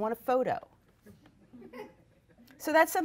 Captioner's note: audience laughs